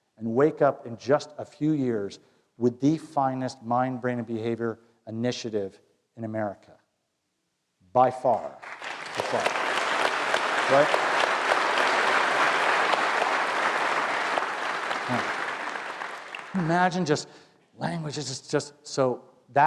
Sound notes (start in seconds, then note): 8.5 applause